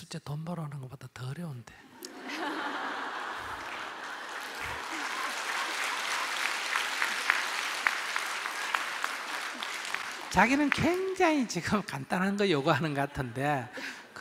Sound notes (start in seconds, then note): 5.0 audience Laughter/Applause